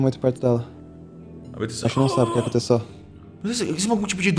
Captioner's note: GM: Beatrice grunts